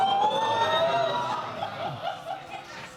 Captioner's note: audience exclaiming